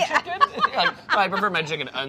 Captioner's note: laughing